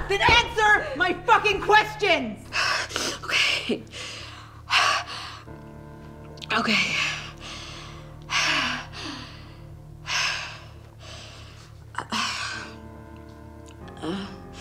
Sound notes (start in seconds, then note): 7.0 Jame breathing heavily